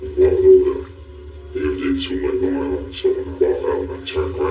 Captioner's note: disistorted voioice